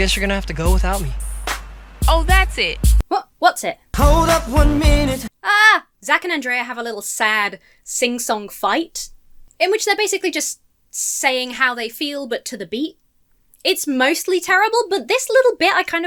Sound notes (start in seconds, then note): 0.0 beat starts playing; 5.4 shouts